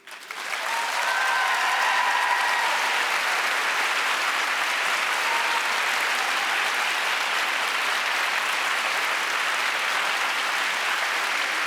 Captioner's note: applause